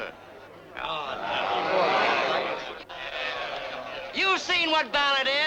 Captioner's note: crowd groaning